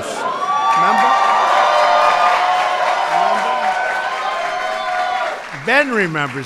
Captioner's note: applause